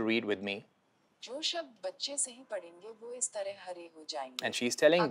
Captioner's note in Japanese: ヒンディー語